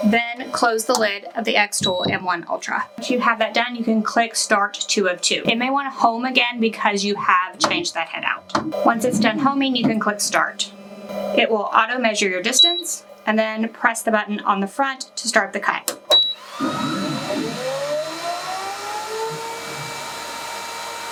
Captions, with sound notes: Then close the lid of the xTool M1 Ultra. If you have that done, you can click Start 2 of 2. It may want to home again, because you have changed that head out. (machine whirring) Once it's done homing, you can click Start. It will auto measure your distance, (machine beeps) and then press the button on the front to start the cut. (machine beeps) (machine whirring)